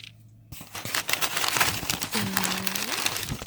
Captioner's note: INTENSE rustling paper ASSMUR